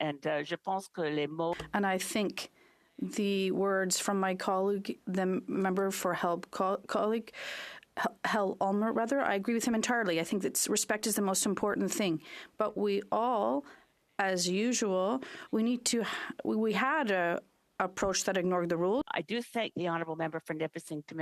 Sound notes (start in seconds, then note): 4.6 speaking French